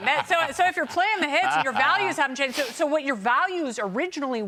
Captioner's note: laughter